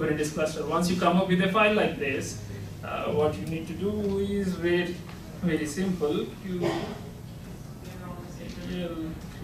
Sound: typing

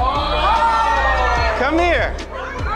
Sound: crowd cheering

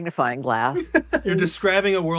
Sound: laughs

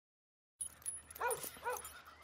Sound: dog Barks twice

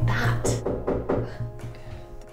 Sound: door knocks

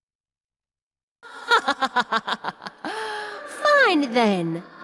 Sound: Morgan laughs derisively

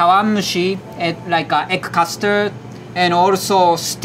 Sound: text chiming

